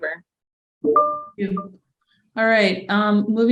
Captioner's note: computer chimes